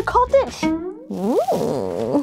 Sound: boing

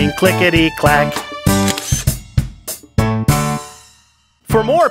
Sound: SFX: Camera Shutter

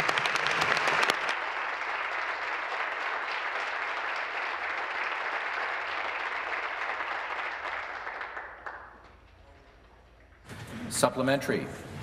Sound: applause

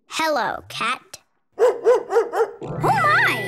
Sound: barking

